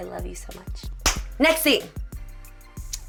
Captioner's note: hand clap